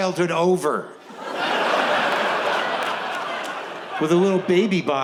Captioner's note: audience laughs